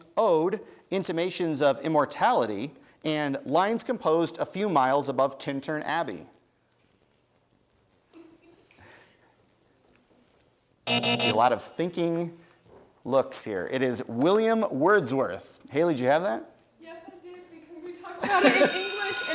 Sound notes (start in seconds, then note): 10.8 buzzer sounds